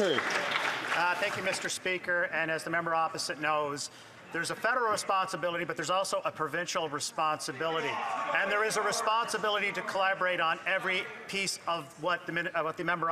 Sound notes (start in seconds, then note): 2.3 some Applause